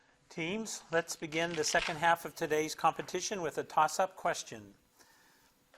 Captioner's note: none